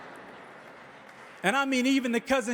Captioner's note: audience laughing